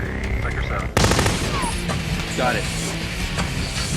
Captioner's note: machine gun firing